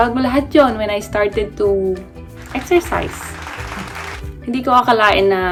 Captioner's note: applause